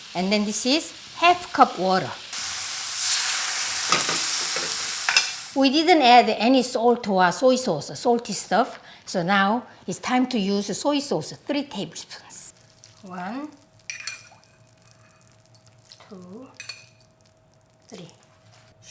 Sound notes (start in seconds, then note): 2.7 sizzling